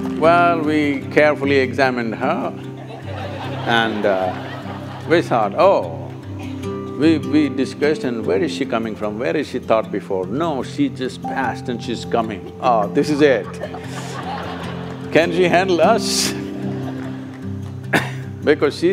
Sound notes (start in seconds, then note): 2.5 laughter; 12.8 laughter